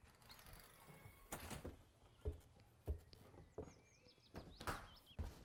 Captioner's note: door clicks shut